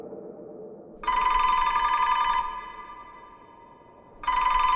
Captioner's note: phone ringing